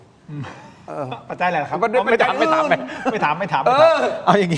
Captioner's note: laughs